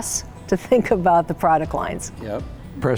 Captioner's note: laughing